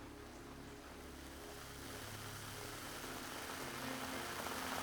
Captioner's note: fizzing